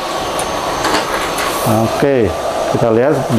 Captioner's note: printer machine sound